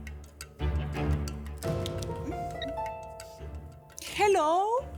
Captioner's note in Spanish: Suena el teléfono